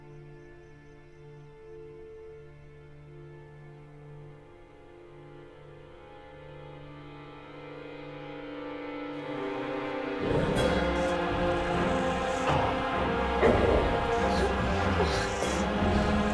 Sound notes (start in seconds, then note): 0.1 gentle orchestral music continues; 6.3 soft intense music; 9.9 growling; 12.2 soft tense orchestral music